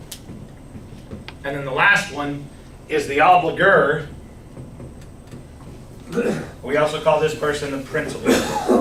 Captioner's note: clears throat